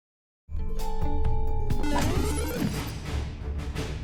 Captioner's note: block chimes